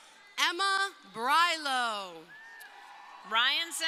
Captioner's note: crowd cheering